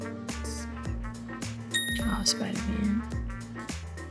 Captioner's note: upbeat music; phone dinging; upbeat music